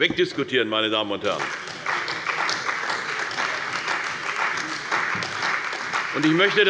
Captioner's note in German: Beifall bei der CDU und dem BÜNDNIS 90/DIE GRÜNEN